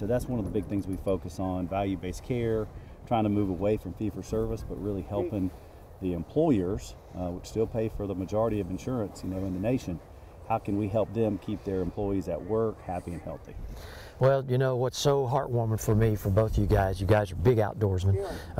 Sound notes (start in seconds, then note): none